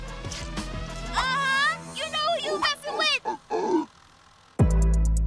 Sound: grunts

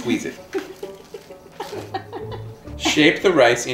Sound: laughter

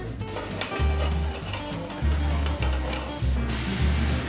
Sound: pan sizzling

